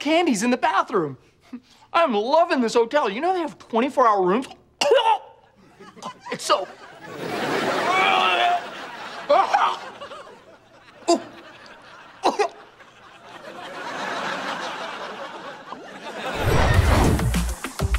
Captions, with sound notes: in the bathroom. I'm loving this hotel. You know, they have 24 hour room- It's soap. [coughing]